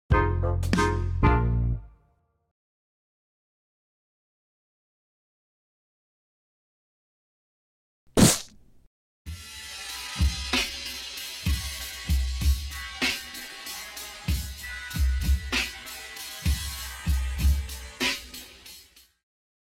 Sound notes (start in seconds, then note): 8.1 whack; 9.8 slow drum roll